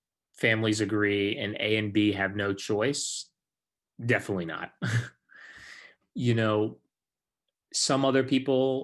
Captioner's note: chuckles